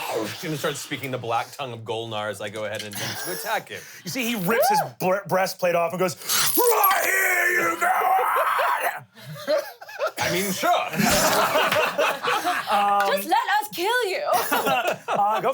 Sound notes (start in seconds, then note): 9.2 laughs; 9.4 everyone laughs